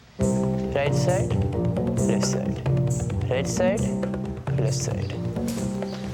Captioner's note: 印度口音; indian Accent